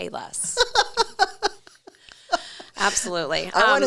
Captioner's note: laughing